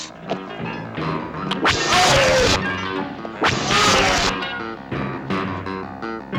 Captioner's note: zapping; yelling; tense music